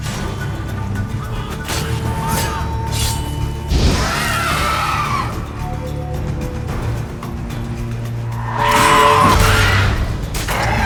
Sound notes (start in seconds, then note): 3.7 flames whoosh; 5.2 shriek; 8.3 hornwall bellows; 10.2 shriek